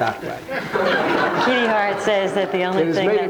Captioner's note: audience laughing